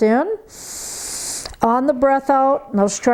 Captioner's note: breathes heavily